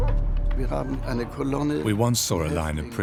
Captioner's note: speaks in foreign language